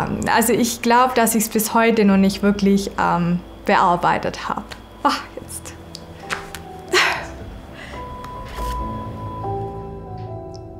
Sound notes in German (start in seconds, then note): 6.9 Seufzen; 6.9 Stöhnen; 8.4 Beklemmende Musik